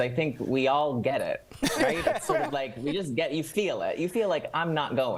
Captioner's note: laughter